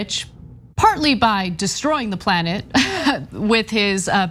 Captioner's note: laugh